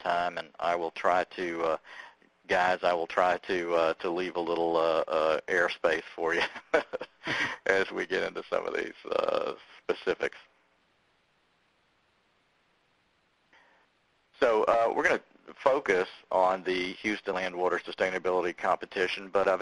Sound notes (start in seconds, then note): 6.3 laughing